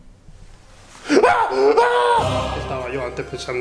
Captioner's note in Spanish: Gritos